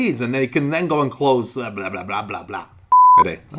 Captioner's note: beeping